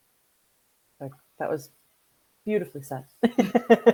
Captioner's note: laughs